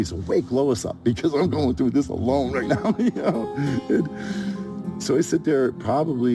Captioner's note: laughs